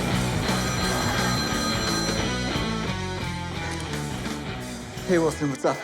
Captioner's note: phone ringing